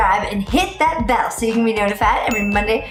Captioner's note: bell rings